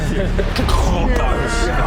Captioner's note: krrgnkboooscshh; nyerrrrbooompfh!